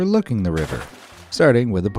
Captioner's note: water splashing